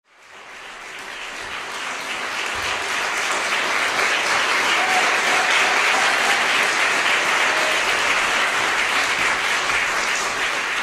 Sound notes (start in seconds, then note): 0.0 applause fades in, cheers punctuate